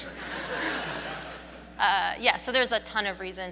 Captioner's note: audience laughs